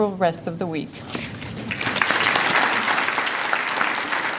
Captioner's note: applause